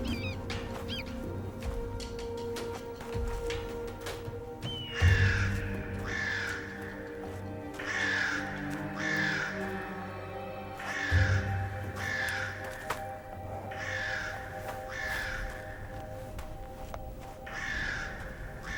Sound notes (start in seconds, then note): 4.6 birds cawing